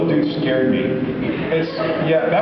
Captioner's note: laughs